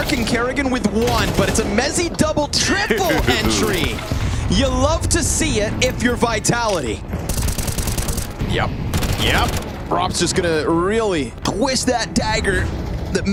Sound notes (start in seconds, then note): 2.9 commentator chuckling; 5.7 gun firing